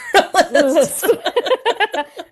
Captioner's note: laughter